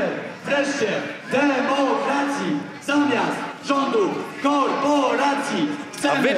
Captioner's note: chanting